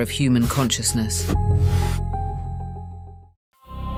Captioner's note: static, music fades